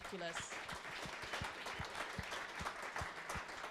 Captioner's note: crowd applauds